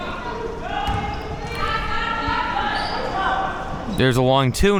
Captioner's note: spectators shouting encouragements